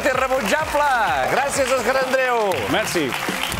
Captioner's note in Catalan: aplaudiments